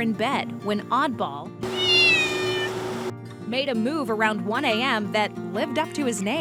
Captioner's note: Oddball meows